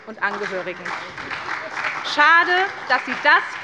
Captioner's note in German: Beifall bei der SPD